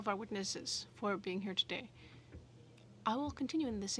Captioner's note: speaking French